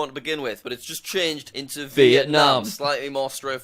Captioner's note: both say vietnam at the same time